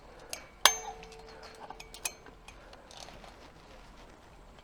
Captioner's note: mesh clanks